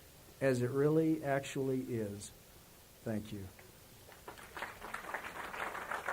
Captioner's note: applause